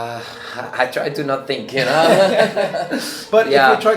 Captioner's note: both laugh